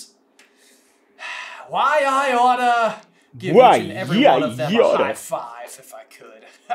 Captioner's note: sigh